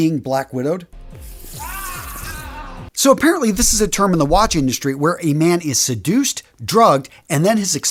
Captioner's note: sound effect